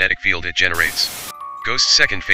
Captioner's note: white noise hisses